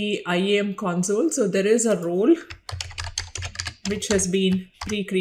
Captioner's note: keyboard keys clicking